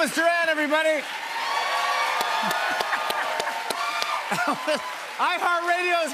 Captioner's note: cheers and applause